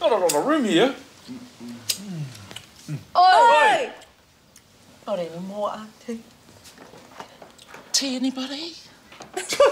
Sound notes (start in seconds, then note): 3.1 group shouts